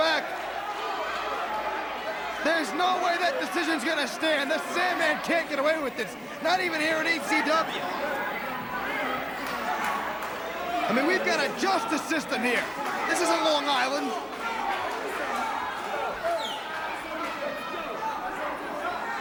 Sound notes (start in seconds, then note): 5.6 crowd cheering; 12.4 crowd cheering